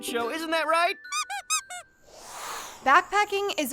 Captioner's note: Mr. Chewinsky squeaking; air whooshing